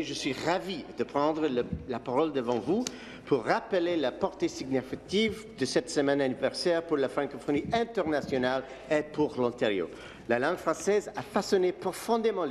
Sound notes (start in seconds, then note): 5.4 speaking in French